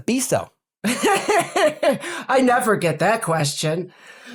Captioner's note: laugh